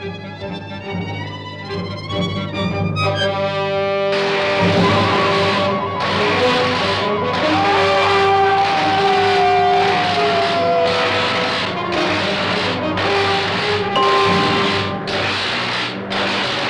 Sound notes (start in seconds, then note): 2.6 dramatic music; 4.0 electricity crackling; 7.5 Faust screaming; 13.9 bell rings